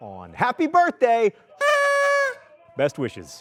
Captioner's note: noisemaker whistling